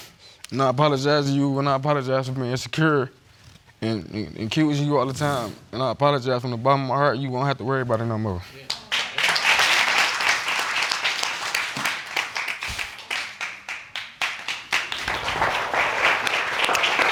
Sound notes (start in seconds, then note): 8.6 applause